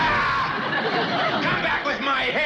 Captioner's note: Drysdale screams